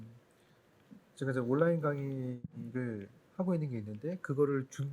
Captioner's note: speaking korean